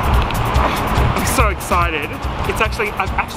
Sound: none

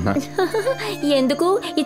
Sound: laughs

